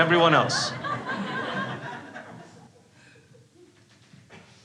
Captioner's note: crowd laughs